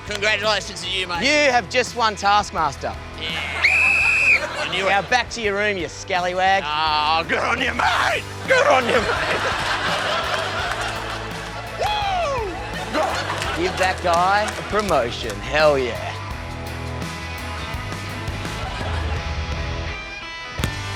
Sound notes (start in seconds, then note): 3.5 blows whistle; 9.8 laughter